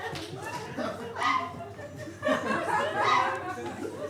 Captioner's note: audience laughs